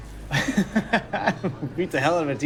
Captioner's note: laughing